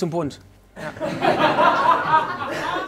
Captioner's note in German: Lachen